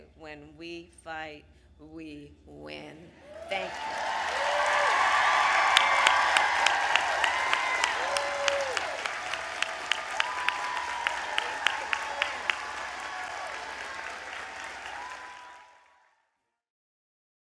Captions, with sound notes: And, again, I will say: When we fight, we win. Thank you. (Applause.)